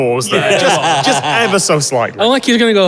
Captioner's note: group laughing